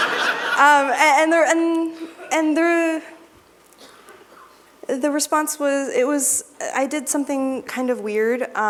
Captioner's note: laughter